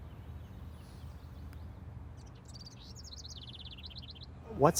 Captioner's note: birds chirping